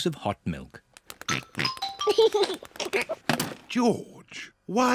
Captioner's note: oinks and giggles